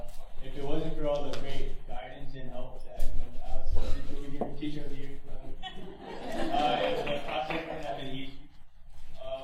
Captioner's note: laughter